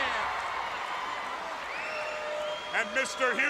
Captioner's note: crowd cheering